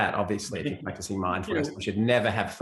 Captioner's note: laughs softly